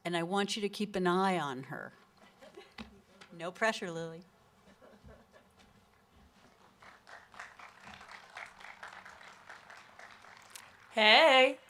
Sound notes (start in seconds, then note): 4.6 giggle; 6.5 applause